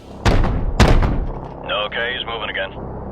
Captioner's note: guns blasting